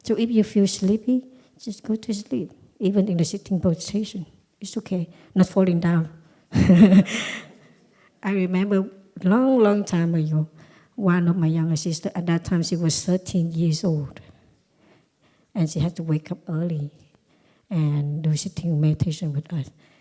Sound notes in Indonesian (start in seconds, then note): 6.6 Suara tertawa